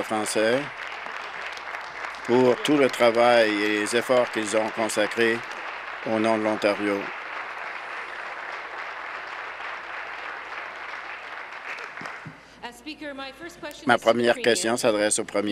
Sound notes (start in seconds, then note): 3.8 applause